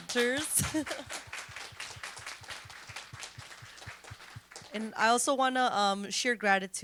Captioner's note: applause